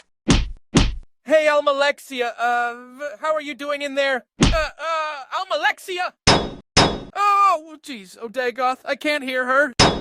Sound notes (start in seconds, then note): 0.2 knock knock; 6.3 knock knock; 6.3 knock